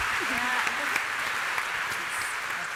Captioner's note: applause